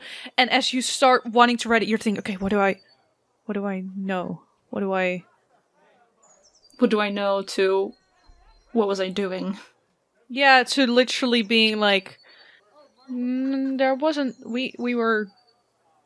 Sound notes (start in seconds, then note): none